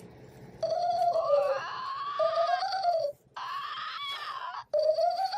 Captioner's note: creatures chattering